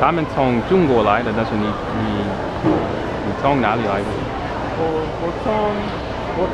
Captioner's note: mandarin